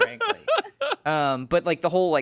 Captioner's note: laughs